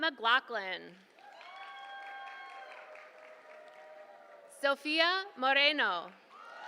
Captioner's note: applause